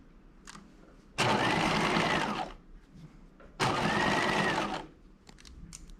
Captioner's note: sewing machine whirring